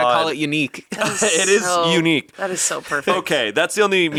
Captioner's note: laughs